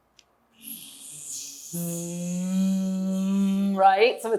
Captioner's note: making bee sound